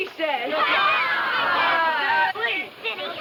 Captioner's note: children laughing